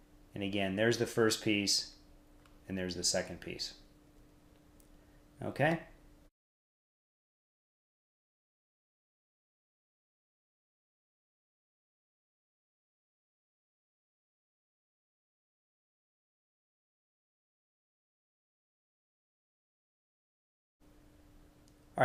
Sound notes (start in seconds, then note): 6.7 silence with captions on the screen